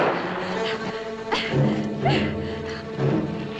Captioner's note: scream - gunshot; gasping